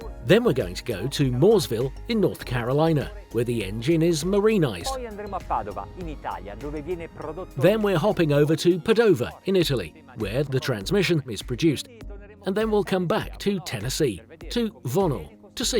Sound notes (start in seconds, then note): 5.2 speaking foreign language